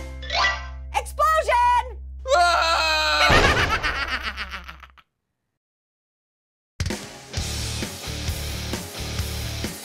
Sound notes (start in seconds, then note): 2.3 Santa screams, Orange laughs